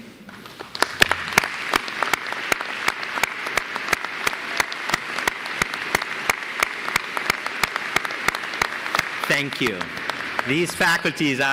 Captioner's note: applause